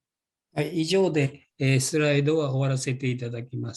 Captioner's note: speaking japanese